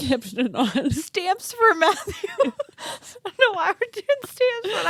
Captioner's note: laughs